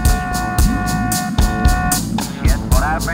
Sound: sonar noises

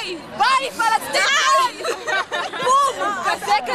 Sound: laughter

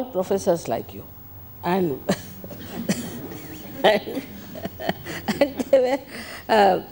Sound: shri mataji laughs

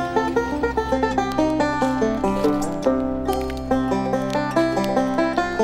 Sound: fire crackling

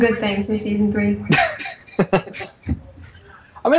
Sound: laughter

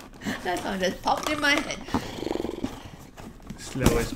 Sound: snoring sound

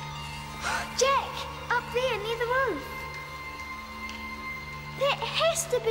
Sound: gasps

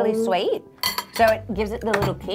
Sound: cutlery clatters

